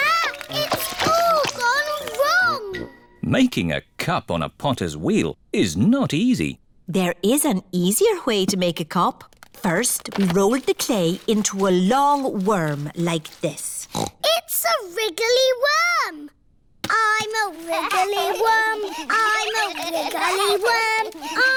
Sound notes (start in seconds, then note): 13.8 snorts; 20.3 all laughing